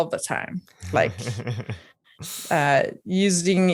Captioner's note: laughing